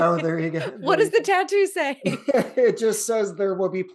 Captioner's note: chuckles